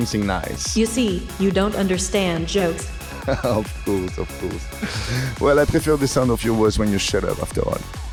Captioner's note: laughters !